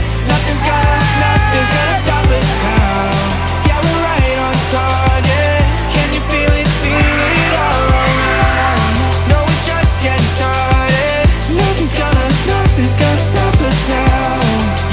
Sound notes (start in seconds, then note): 0.1 cheering; 2.9 pride bells ringing; 6.9 excited screaming